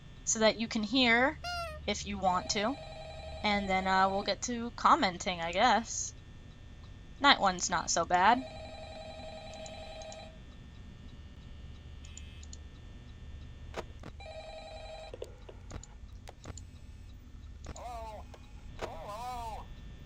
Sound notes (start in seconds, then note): 1.4 squeak; 2.2 phone ringing; 8.2 phone continues ringing